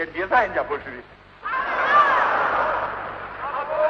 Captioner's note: laughter